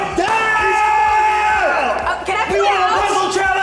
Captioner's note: yelling